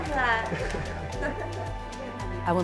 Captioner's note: laughing